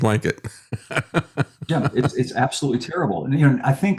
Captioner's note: laughs